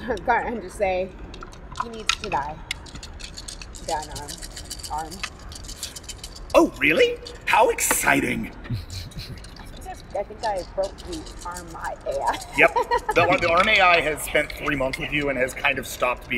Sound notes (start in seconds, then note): 4.0 dice rattle; 12.5 laughter